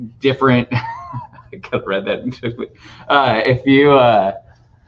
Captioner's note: laughing